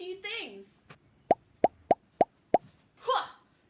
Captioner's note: popping sounds